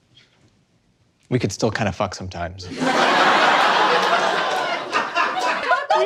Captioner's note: audience roars with laughter; amidst laughing like mad